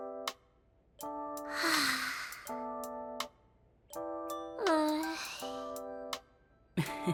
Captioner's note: sigh